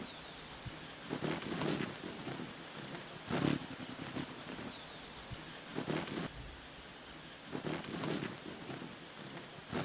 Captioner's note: birds chirping